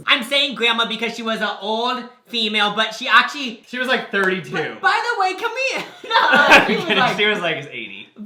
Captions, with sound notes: I'm saying grandma because she was a old female, but she actually- - She was like 32. - By the way, can we, nu-uh! (both laugh) - Okay, she was like 80.